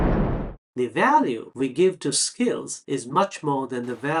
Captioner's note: cannon fire